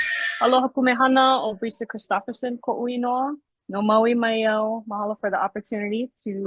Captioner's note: speaks in foreign language